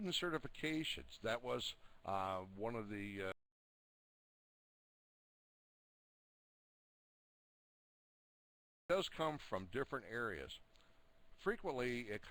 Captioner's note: audio drops